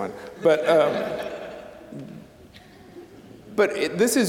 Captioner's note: audience laughing